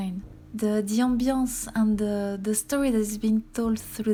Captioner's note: slight stutter, in a thick french accent